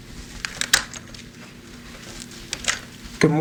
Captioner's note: door clicks